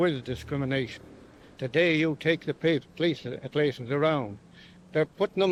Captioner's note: stutters